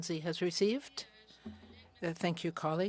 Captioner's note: speaking French